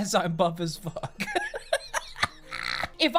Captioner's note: laughing